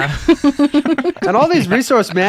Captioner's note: laughing